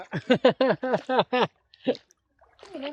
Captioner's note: laughter